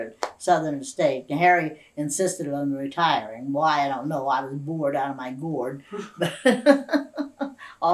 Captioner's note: laughter